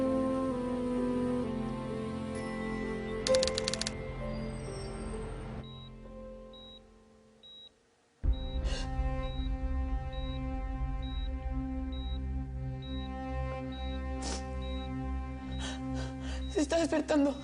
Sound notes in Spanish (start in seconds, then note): 6.5 Sonido del monitor; 15.5 Sollozos